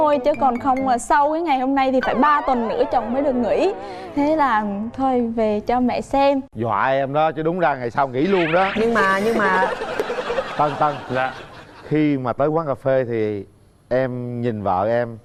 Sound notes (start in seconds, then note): 8.2 laughing